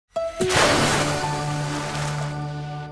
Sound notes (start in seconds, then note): 0.4 splash